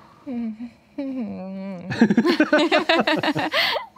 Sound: shy laughing

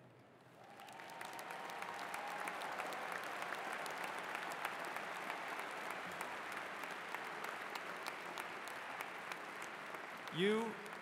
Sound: applause

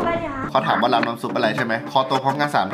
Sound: radio

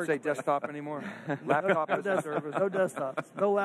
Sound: all laughing

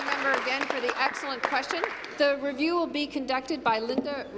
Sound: applause

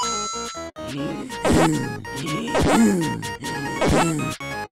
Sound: grunting

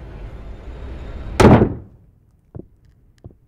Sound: door bangs; footsteps descend

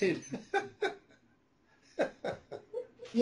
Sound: laughter

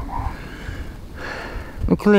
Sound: sighs

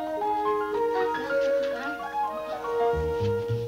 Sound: hums

